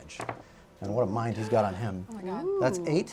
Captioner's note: gasps